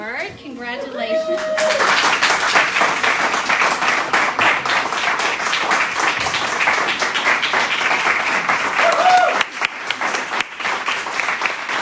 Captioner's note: cheering and applause